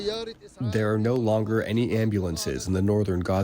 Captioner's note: through translator